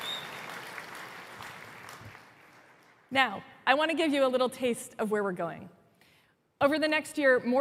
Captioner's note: applause